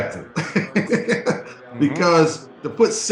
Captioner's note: laughs